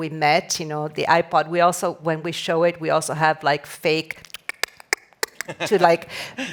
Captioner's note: clicking